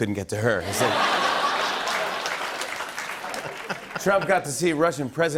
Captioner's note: laughter